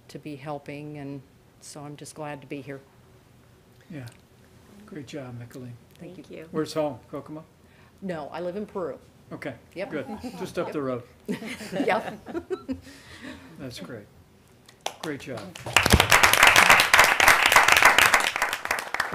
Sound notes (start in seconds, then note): 11.2 laughter; 15.3 applause